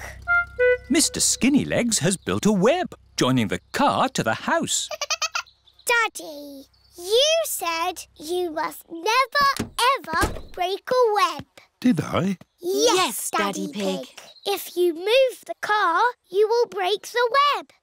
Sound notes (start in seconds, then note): 4.9 giggling